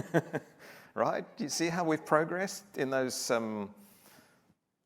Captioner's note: laughter